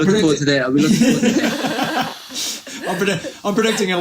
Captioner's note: laughs